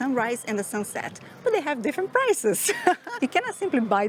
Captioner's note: laughs